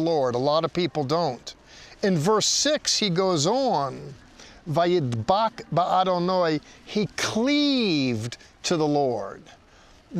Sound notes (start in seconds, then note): 4.6 speaking in Hebrew